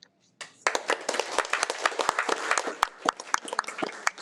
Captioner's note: audience applauding